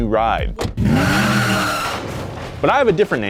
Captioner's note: wheels screeching